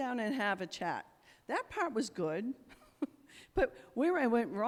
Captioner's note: chuckles